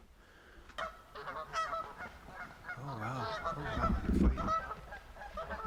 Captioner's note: geese honking